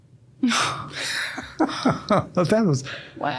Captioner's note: both laughing